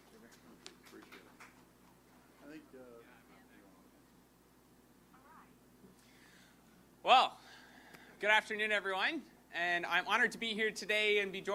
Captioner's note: applause